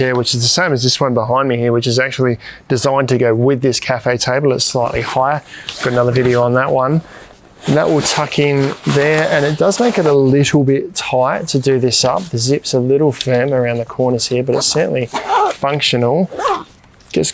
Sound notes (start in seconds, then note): 14.5 zip rasping